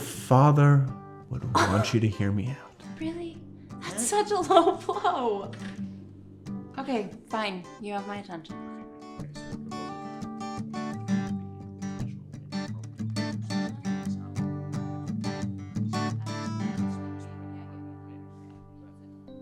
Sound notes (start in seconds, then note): 10.4 Randy speaking softly; 10.4 soft guitar strumming; 15.4 guitar strumming continues